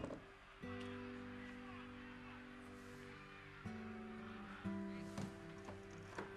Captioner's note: gentle music; TV chattering; gentle music